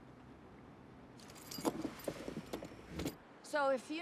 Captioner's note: keys tinkling